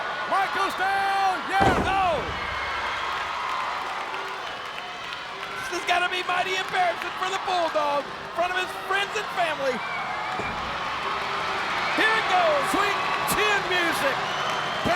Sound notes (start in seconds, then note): 2.9 applause